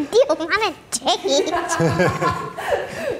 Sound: laughing

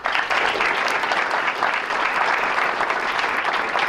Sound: applause

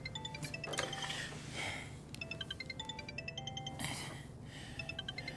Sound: phone continues ringing

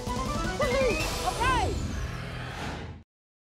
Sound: whoosh

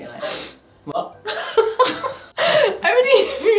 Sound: laughing

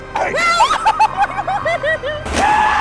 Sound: screaming; crazy laughing; screaming

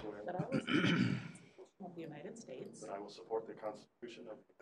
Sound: man clears throat

